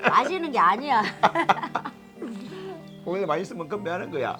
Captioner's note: both laughing